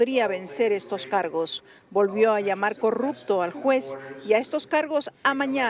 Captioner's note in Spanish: habla en ingés